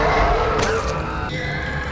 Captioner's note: screaming